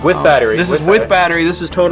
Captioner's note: voiceover